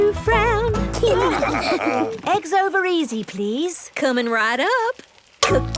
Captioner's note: laughing